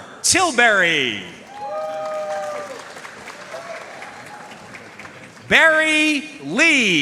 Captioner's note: audience cheering and applauding